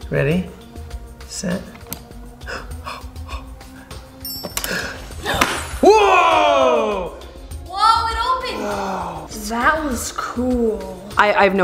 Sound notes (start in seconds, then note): 2.4 dad panting; 4.2 bell ringing